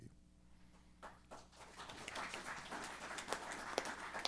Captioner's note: applause